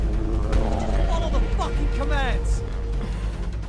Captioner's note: guards profanely arguing in the distance